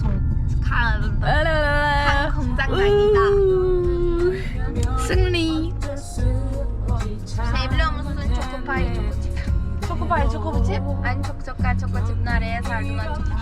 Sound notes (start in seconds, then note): 7.0 provokes in Korean